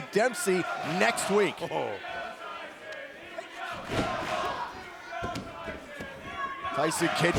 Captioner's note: crowd cheering